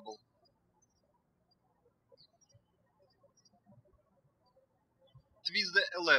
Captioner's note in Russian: птички щебечут